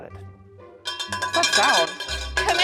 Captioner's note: bell ringing in distance